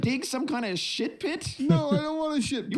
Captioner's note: snicker